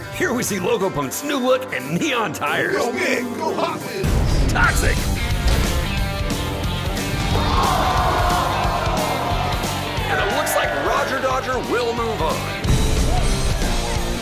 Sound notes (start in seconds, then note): 5.7 fast-paced music; 7.4 jeers